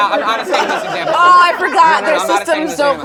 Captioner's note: background laughter